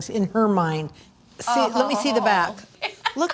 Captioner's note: laughs